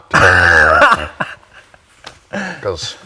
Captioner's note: laughs